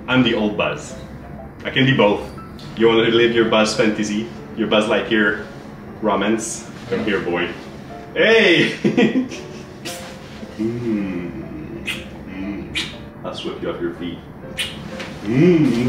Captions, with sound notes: I'm the old buzz. I can be both. You want to live your Buzz fantasy? Your Buzz Lightyear romance? Come here boy. Hey. (lips smacking) I'll sweep you off your feet.